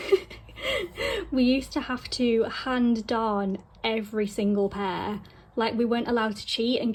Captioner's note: laughing